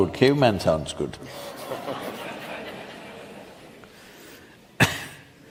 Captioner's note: laughter